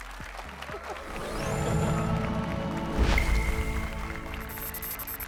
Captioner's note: applause and cheers